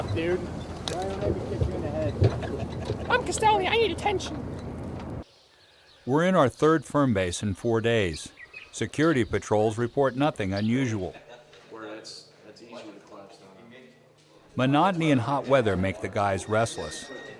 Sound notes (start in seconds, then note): 2.2 Marine 1, in high-pitched voice; 5.9 voiceover